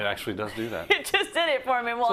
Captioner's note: laugh